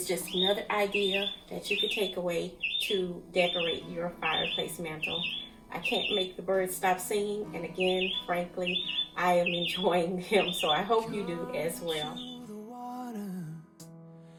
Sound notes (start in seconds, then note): 11.5 birds are chirping